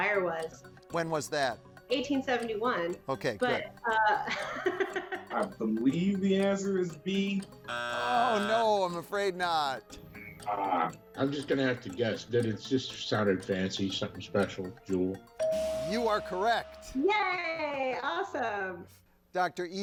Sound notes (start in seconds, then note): 3.8 laughs; 7.6 buzzer sounds; 15.3 tone chimes